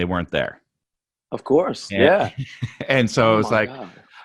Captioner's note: laughs